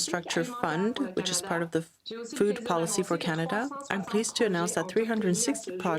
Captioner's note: speaking French